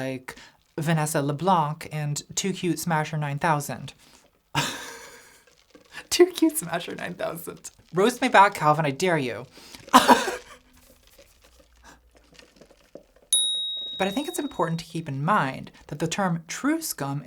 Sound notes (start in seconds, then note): 4.6 laughs; 10.0 laughing; 13.3 dinging